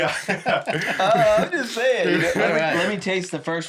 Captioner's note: laughter